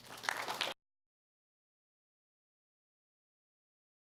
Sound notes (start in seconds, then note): 0.0 applause